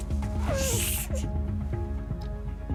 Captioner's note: hisses in pain